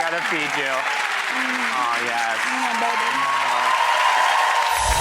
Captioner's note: applause and cheering